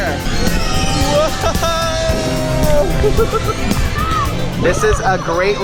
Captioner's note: chuckles